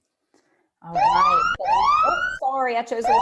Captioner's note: alarm ringing